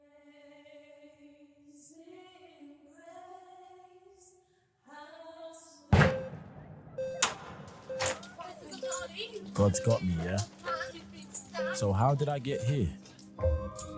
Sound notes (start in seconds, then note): 7.2 door kicked open; 7.5 people shouting